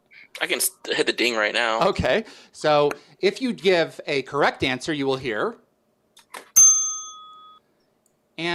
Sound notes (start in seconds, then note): 6.5 ding